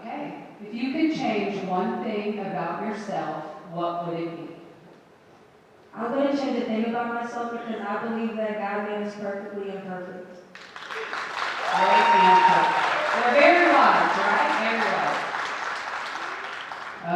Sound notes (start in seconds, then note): 10.5 audience applauding